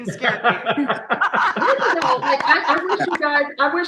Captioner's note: everybody laughing